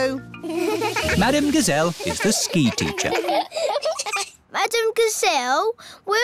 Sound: laughing

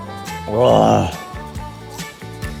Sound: huaaaa

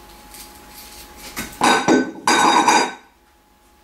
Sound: clatter as I drop potato and bowl

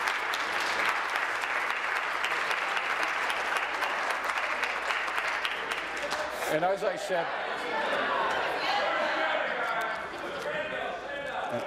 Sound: applause

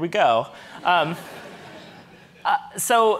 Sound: audience laughing

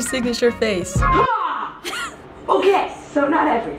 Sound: snickers

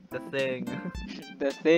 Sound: chuckles

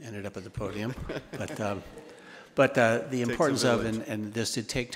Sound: attendees laughing

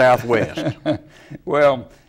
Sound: laugh

